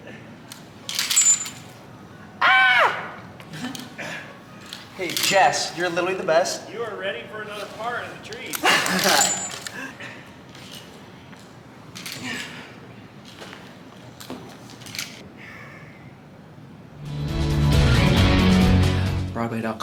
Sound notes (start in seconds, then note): 0.8 metal rattling; 8.4 metal rattling; 8.6 laughing; 12.4 grunting; 12.4 metal rattling; 17.0 upbeat bright music